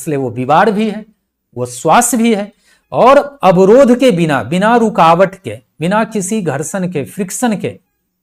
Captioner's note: breath